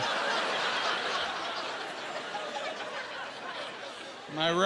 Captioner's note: laughing